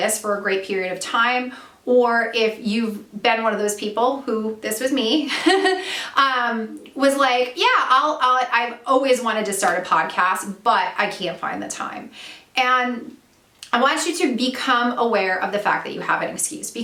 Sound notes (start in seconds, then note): 5.3 laughs